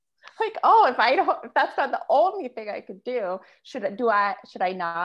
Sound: chuckles

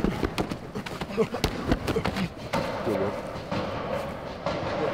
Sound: player grunting

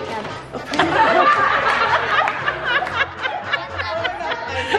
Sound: laughing

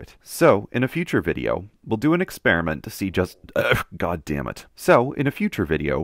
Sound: burp

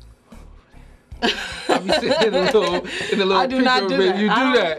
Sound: laughing

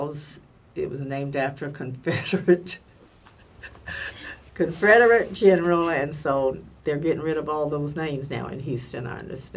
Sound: laughs

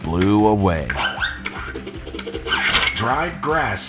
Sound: Duolingo squeaking; ball whooshing

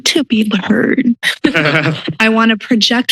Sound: laughter

